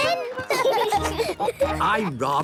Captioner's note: laughing